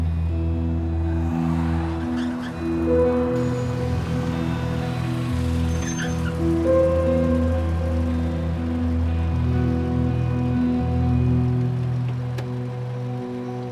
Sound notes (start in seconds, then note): 0.9 tires screeching; 4.9 engine rumbles to a stop; 9.1 tense guitar over ominous electronic music